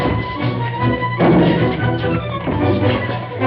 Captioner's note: thud